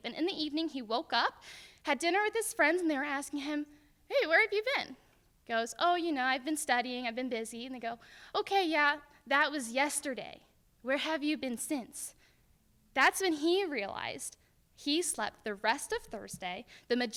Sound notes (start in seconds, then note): none